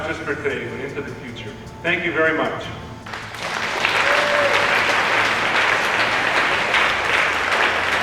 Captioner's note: applause